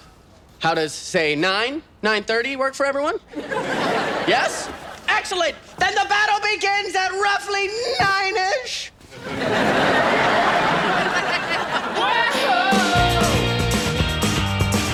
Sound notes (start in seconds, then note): 3.3 audience laughs; 9.0 audience laughs; 12.6 upbeat music